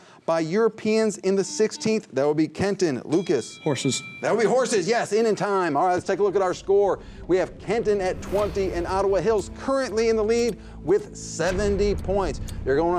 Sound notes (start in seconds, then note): 1.4 buzzer; 3.0 ring